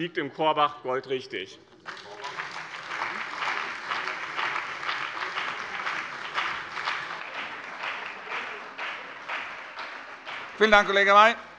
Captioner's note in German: Beifall bei dem BÜNDNIS 90/DIE GRÜNEN und der CDU